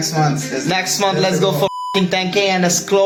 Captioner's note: beep